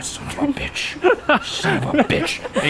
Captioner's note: laughs